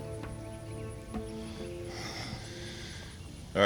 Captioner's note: sighs